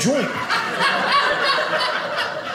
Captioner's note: audience laughing